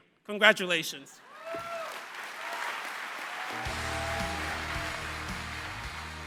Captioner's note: applause